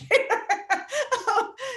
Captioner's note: laughing